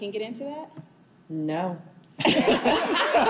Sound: laughing

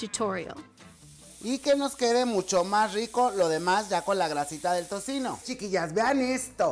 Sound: sizzling bacon; chef speaks in Spanish

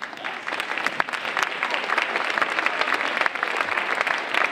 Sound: audience applauding

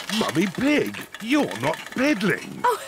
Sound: giggles; all laugh

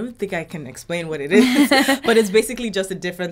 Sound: laughs

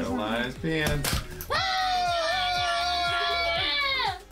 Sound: all yelling

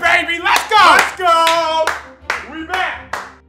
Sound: clapping

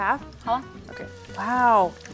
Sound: speaking in mandarin

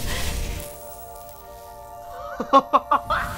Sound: dramatic music; something buzzing; person laughing

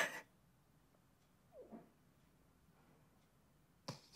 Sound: sobbs

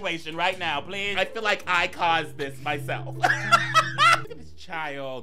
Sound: laughing

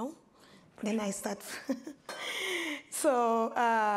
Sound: laughs

